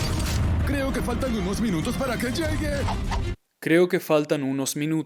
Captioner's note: speaking in Spanish